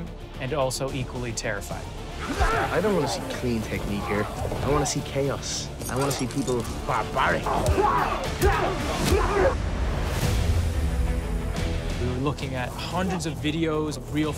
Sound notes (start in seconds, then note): 7.1 both grunting; 10.2 tense dramatic music